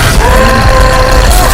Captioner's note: cry out